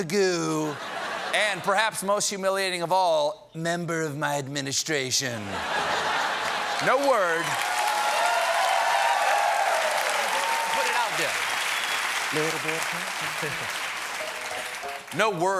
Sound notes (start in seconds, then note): 5.4 laughter; 6.3 cheers and applause